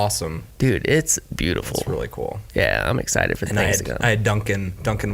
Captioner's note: none